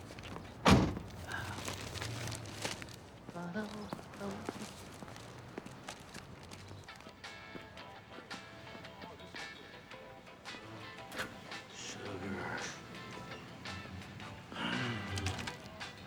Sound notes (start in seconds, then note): 3.2 humming; 7.3 mellow rock playing